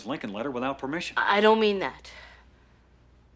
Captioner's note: stammering